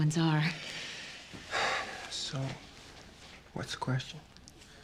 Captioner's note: exhales